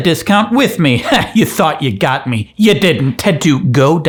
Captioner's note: laughing